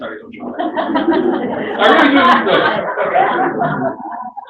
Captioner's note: laughter